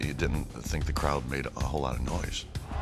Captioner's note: none